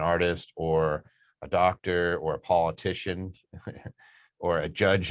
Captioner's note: chuckles